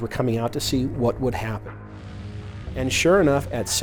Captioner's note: airplane engine roaring